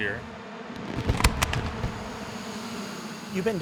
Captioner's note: fireworks popping